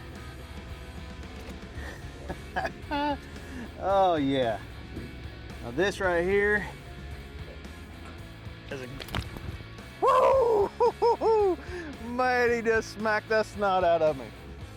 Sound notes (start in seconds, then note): 1.8 laughing; 10.0 grunting